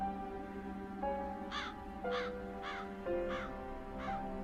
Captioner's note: gentle music; crow caws